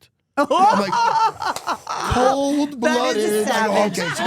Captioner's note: winces